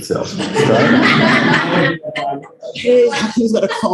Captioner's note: laughter